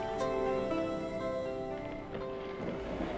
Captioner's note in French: grillons